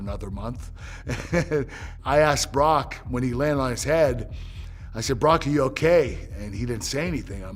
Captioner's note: laugh